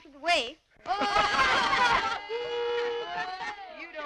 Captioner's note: laughter